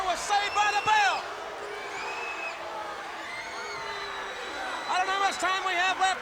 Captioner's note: crowd cheering; people whistling